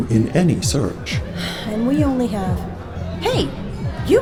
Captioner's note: sigh